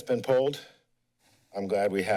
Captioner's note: pause